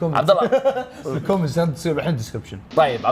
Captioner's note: laughs